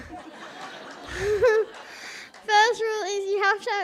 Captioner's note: audience laughs